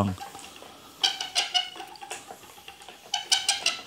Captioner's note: squeaking